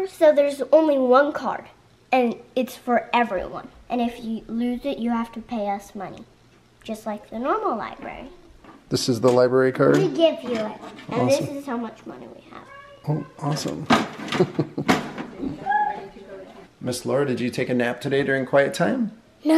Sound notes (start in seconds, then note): 14.2 chuckles